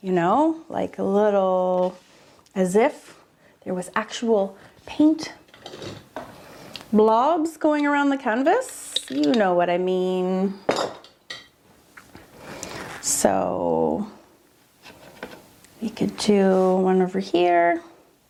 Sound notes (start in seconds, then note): none